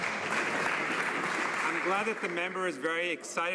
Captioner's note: some Applause